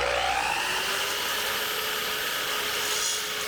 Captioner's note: tool sawing